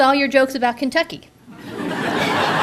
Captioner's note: audience laughter